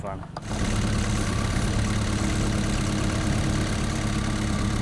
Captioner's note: motor humming